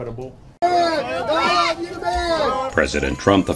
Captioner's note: screaming and cheers